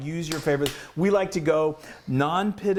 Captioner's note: claps